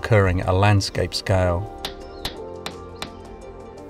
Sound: hammering

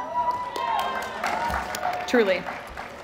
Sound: applause

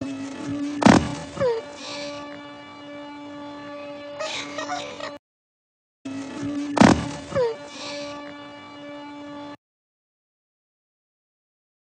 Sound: groans and crying

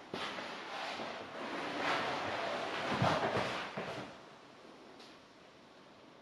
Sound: fabric rustling; footsteps shuffling

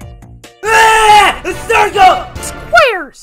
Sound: screams

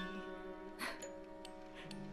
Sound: chuckles

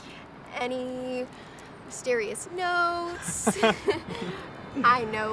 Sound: Jesse laughing

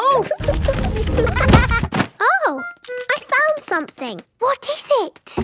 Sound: thuds

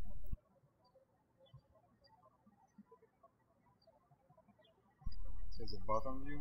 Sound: birds chirping

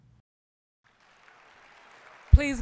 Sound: applause

